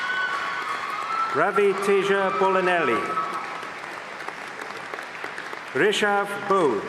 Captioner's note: applause